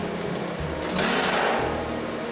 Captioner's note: rattling